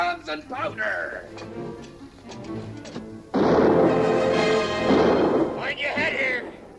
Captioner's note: anticipatory music; guns firing